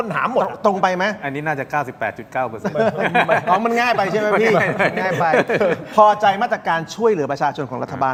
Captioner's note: laughter